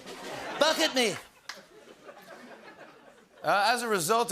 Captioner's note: laughter